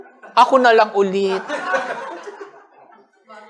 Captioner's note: laughter